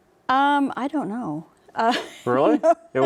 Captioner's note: laughs